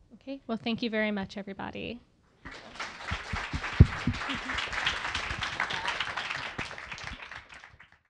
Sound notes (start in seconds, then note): 2.4 applause